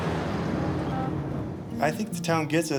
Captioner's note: firetruck revving